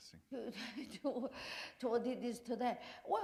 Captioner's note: chuckle